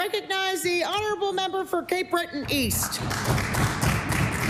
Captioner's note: applause